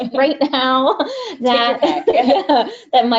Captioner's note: laughs